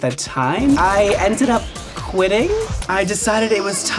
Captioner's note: contract whooshing